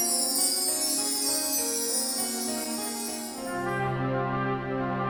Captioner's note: bells chiming